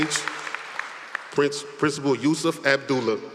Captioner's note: applause